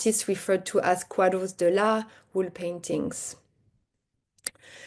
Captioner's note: speaks Portuguese